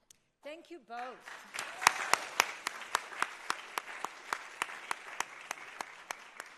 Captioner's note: audience applauding